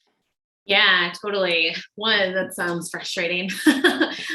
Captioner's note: laughs